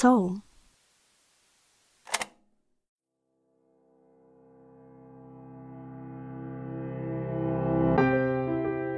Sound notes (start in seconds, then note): 2.0 click